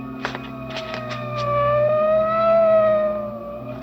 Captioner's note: siren blaring